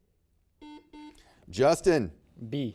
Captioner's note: buzzer beeps